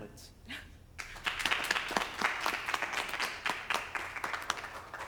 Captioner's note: spectators applaud